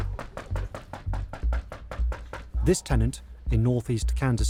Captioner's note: knocking